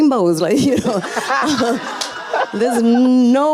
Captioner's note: laughs; audience and panelists laughing